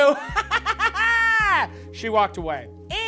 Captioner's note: laughs